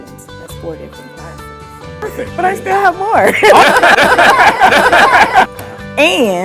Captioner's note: laughs